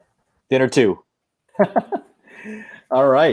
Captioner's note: laughing